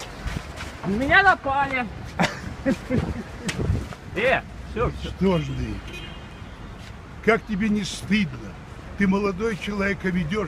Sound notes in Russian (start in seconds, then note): 2.2 смех